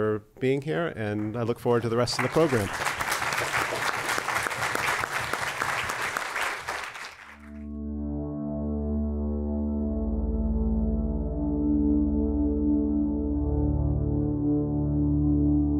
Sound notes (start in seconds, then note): 1.6 applause